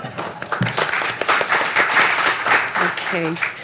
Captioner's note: applause